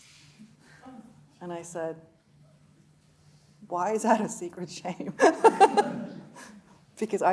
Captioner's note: chuckling